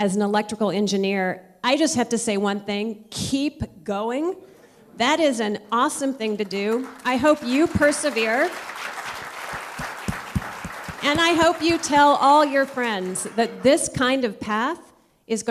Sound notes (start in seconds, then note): 9.3 applause